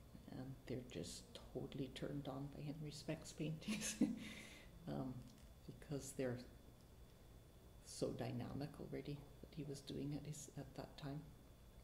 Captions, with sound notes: They're just totally turned on by Henry Speck's paintings (chuckles) because they're so dynamic already, what he was doing it at that time.